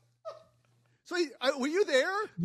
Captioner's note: laugh